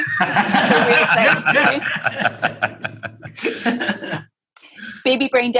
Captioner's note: laughing